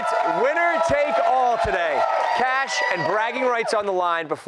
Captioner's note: cheers and applause